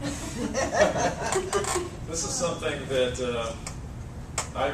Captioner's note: laugh